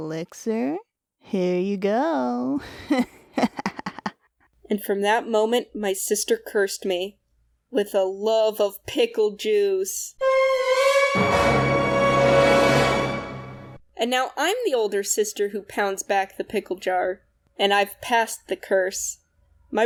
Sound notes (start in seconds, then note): 0.0 evil laugh; 10.3 Spongebob dramatic impact